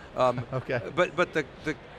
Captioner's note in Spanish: risas